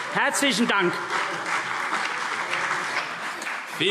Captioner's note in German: Beifall CDU und vereinzelt BÜNDNIS 90/DIE GRÜNEN